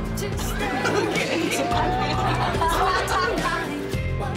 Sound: laughter

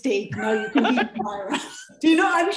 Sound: laughter

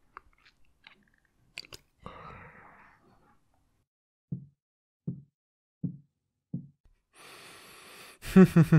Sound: chuckles

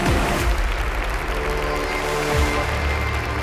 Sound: crowd applauding

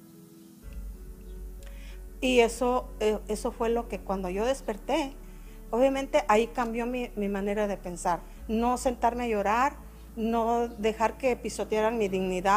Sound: speaking spanish

